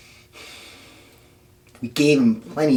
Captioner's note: sighs